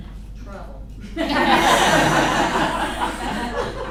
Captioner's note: laughter